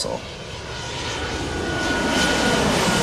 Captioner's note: airplane Whooshing